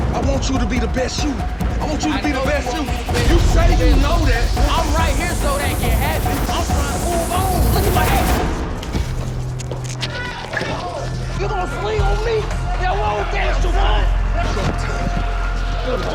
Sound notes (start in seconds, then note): 9.3 tense music; 10.0 people shouting; 13.1 shouting